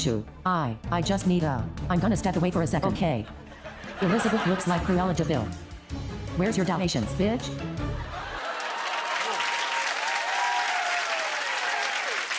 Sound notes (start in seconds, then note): 8.0 cheers and applause